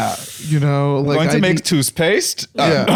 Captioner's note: German accent; stilted American accent